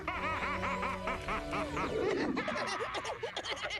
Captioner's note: laughing maniacally; laughing